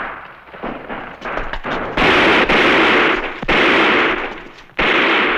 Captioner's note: gunfire